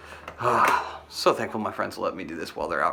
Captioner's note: exhales